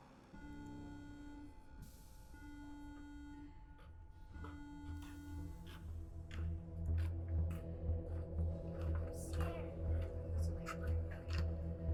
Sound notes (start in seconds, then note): 0.6 steady tonal beeping; 6.9 deep ominous music